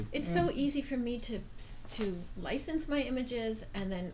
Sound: voiceover

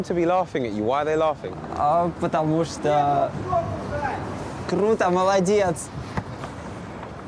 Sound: man yelling; speaking in foreign language

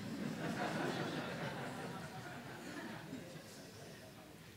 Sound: laughter

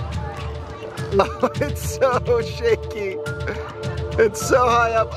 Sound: laughs

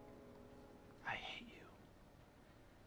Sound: whispered

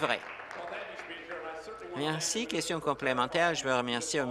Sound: applause

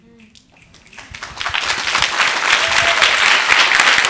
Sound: audience applauding

